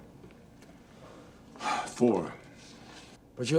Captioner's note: sighs